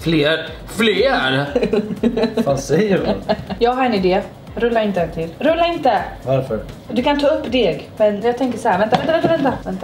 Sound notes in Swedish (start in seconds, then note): 1.5 skrattar